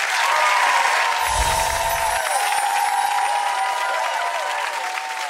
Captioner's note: applause; crystal chiming